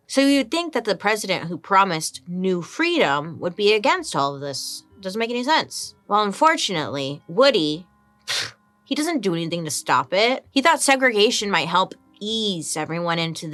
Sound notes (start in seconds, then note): 8.3 huffs